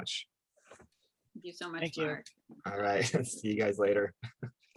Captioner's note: chuckles